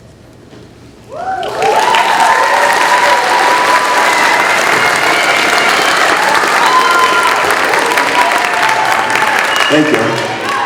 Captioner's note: cheering